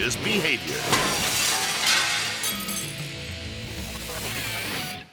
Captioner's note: glass shattering